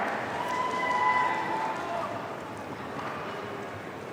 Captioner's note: audience cheering